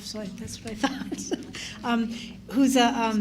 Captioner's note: chuckles